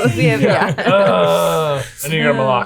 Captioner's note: all laughing and mumbling